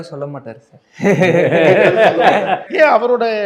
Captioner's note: laughing